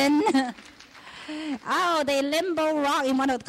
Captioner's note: clapping